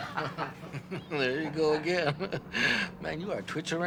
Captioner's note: laughing